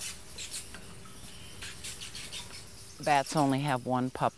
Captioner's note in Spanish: murciélagos piando